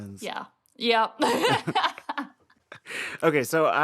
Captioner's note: laughter